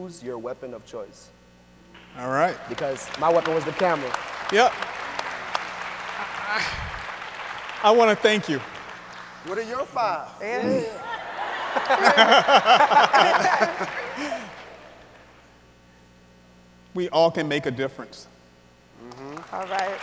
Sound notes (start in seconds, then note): 5.6 audience applauds; 10.5 audience and speakers laughing